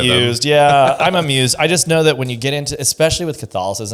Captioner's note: laughs